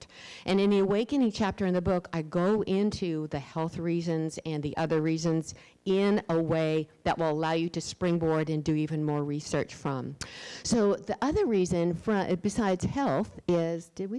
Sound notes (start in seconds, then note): none